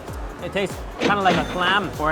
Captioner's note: register chiming